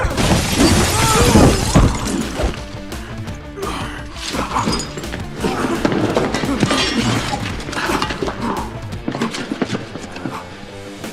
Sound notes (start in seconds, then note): 0.5 Booth shrieks